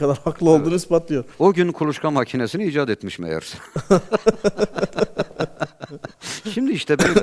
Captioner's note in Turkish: kahkaha